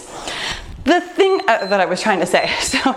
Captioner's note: timer beeps